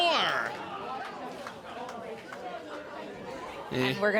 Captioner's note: crowd murmuring